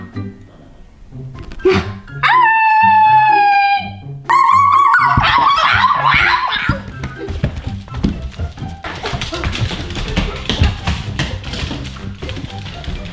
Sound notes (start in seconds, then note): 4.3 barking and howling